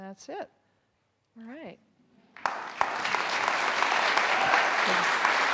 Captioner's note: audience applauding